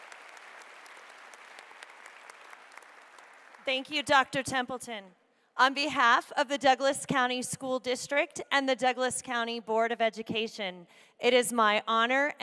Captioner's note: applause